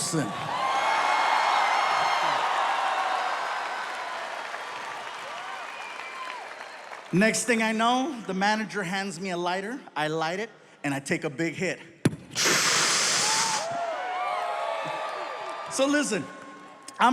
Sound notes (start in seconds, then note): 0.0 audience cheering; 0.1 audience applauding; 12.3 inhaling; 13.2 audience cheering